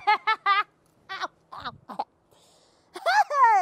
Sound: Buick laughs

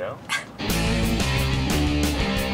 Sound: laughing; guitar rock

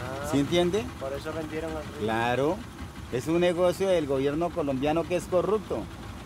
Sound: speaking in foreign language

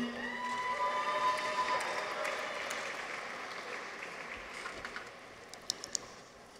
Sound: people cheer; audience applauds

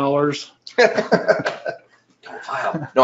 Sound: laughing

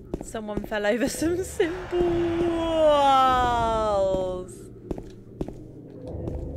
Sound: game - Weird sound

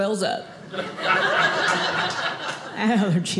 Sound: audience laughing

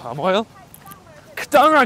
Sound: Mandarin

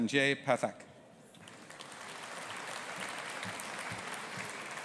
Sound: audience applauding

